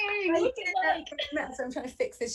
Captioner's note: applause